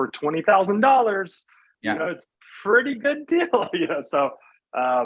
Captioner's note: laughs